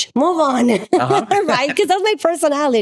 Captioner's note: laughs